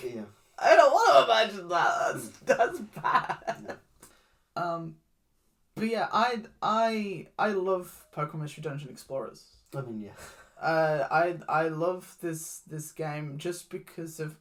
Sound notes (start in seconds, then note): 1.7 laughs